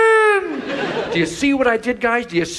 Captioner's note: audience laughs